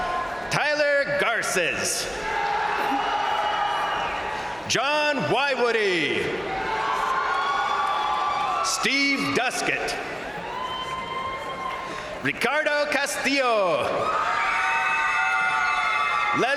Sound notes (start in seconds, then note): 1.9 crowd cheering; 2.6 crowd applauding; 5.9 crowd cheering; 6.4 crowd applauding; 10.0 crowd applauding; 10.3 crowd cheering; 14.4 crowd cheering